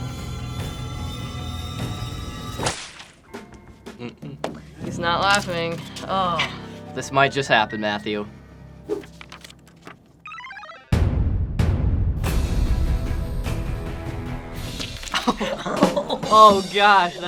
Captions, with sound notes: - He's not laughing. Oh. - This might just happen, Matthew. (suspense music) Oh. (laughs) Oh gosh.